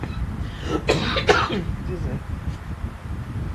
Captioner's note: coughs